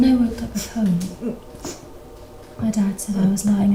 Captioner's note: whimpers